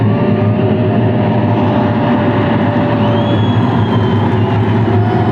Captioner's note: crowd cheers; white noise